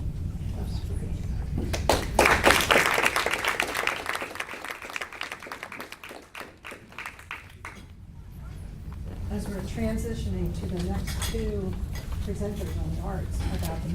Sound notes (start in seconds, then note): 1.7 applause